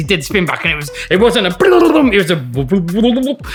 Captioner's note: mimics record rewinding quickly; mimics record rewinding slowly